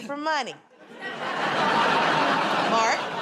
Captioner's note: laughter